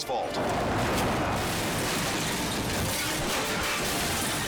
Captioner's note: motor cycle crashing